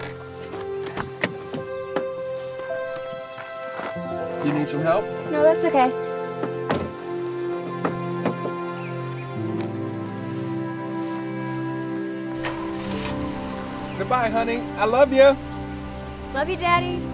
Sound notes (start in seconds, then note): 0.3 gentle music; 12.2 engine rumbling